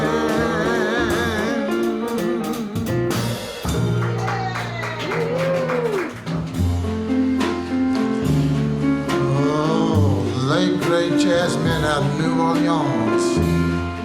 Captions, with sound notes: (audience cheers) (gentle jazz music) Oh, late great jazzman of New Orleans,